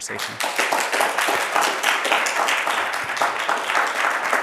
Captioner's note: audience applauds